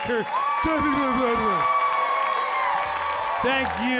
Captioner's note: audience cheering